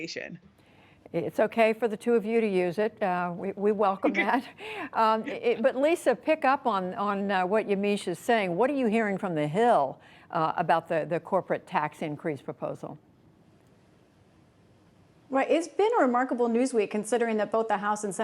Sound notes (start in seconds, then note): 4.0 laughter